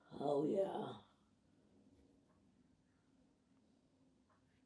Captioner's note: pauses 8 seconds